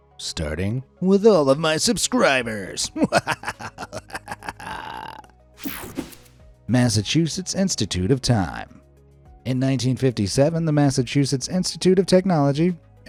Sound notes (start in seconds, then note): 2.9 narrator evil laughing; 5.6 soft upbeat music; 5.6 air whooshing